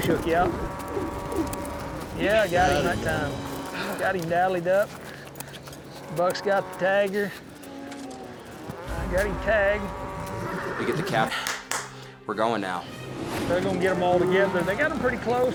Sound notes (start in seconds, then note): 11.2 claps